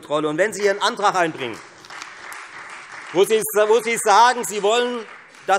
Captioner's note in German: Beifall Freie Demokraten